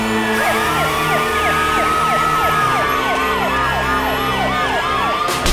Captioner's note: sirens